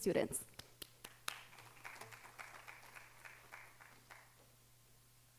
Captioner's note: audience applauding